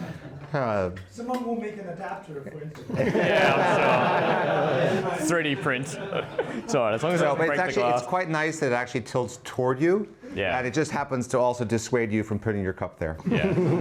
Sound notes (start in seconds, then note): 2.9 laughing